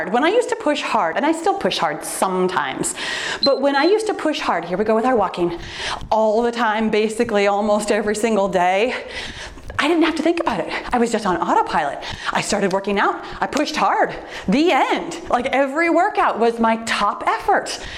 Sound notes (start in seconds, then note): 3.4 timer beeps